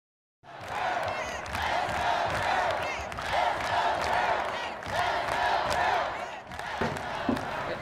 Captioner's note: crowd cheering off screen